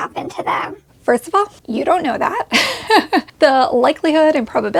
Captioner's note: chuckles